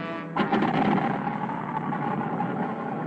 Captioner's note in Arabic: بدء تشغيل المحرك